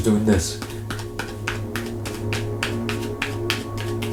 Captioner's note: card tapping